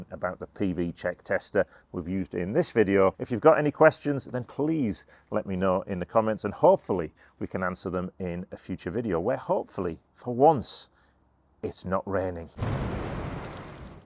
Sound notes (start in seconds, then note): 12.6 rain pouring; 12.6 thunder rumbling